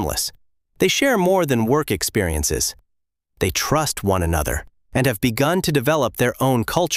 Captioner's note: evil scientist voice